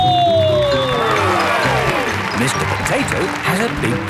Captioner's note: cheering